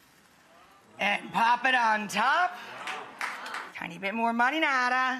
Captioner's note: audience gasping